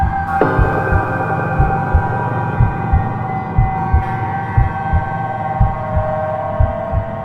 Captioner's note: eerie music; heart beating